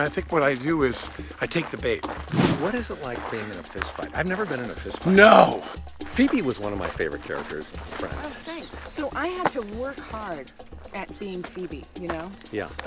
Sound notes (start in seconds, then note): none